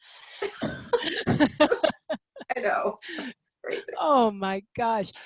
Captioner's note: laughs